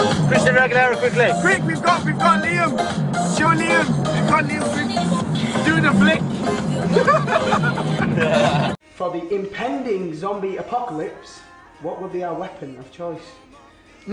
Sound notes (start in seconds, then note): 6.8 adorable laugh; 6.9 cute laugh